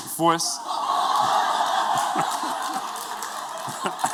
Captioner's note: laughter